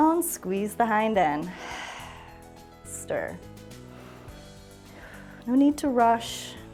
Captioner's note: exhales